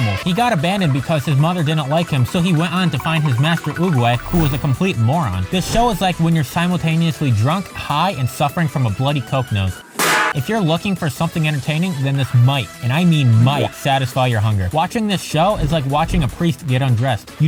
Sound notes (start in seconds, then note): 10.0 smack